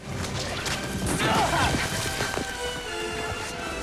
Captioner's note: grunts